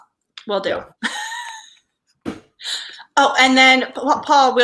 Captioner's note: laughs